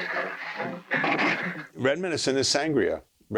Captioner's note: laughing